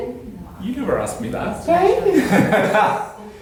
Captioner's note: laughter